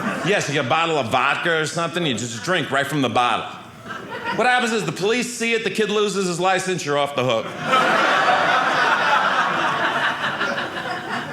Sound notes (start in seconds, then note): 7.4 audience laughing